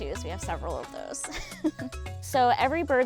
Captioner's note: laughing